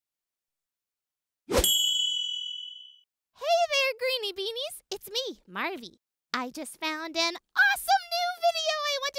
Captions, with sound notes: (whip cracking) (bell chimes) - Hey there, Greenie Beanies! It's me, Marvie. I just found an awesome new video